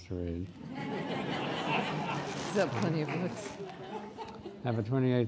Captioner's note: laughing